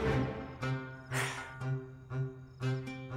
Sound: sighs

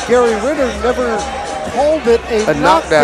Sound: crowd cheers

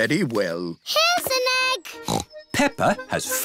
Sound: snorts

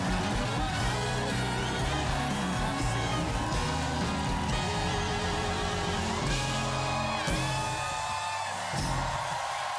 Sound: cheers and applause

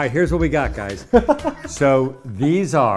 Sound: laughs

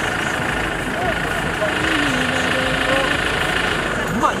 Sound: vroom vroom

